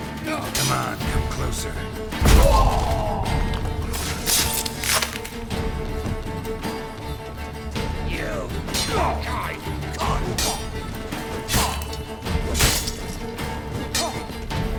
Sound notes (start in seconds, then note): 2.2 thunderous boom; 3.8 groan